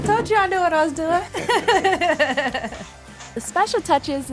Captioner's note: laughs